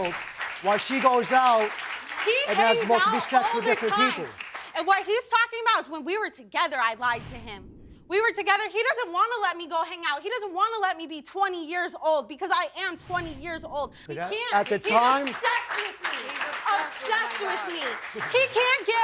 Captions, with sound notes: while she goes out and has multiple sex with different people. And what he's talking about is when we were together, I lied to him. We were together, he doesn't wanna let me go hang out. He doesn't wanna let me be 20 years old, because I am 20 years old. He can't. He's obsessed with me! (AUDIENCE APPLAUDING) Obsessed with me! He can't get over me.